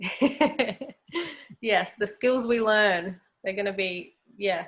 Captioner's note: laughs